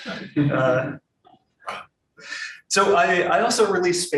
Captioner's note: audience laughing